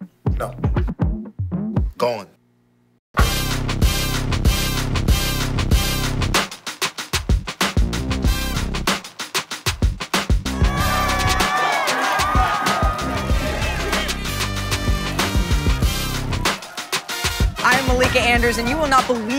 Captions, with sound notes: No. ...Gone. [upbeat music] [crowd cheering] [upbeat music] I’m Malika Andrews and you will not believe